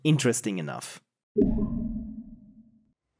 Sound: portal sound

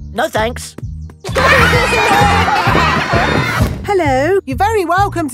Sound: laughter

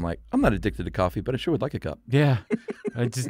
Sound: laughs

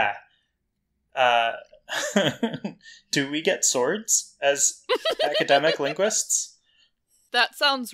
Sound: laughs

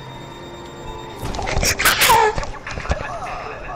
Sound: screams quietly

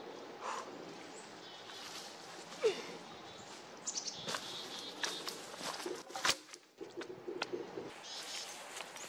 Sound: a grunt of effort, branches cracking, log falling on the ground, chickadees; effort grunting, branches cracking, log falling onto other logs

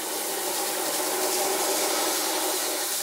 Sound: smooth whirring

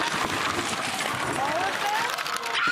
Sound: objects hitting the table

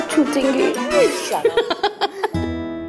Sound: Vandy laughs

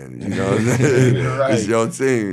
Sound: laughing

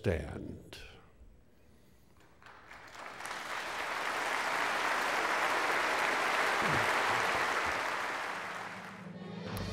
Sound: applause

